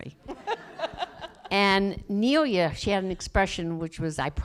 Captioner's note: laughter